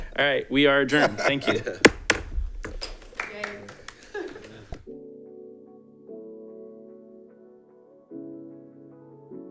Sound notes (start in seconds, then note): 1.8 gavel bangs; 4.8 bright music